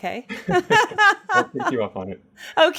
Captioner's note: laughs